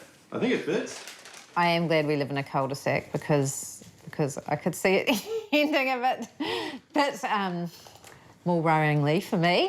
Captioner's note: chuckles